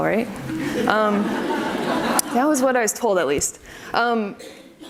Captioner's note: audience laughs